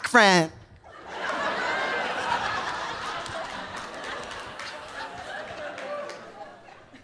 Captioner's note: audience laughing; audience applauding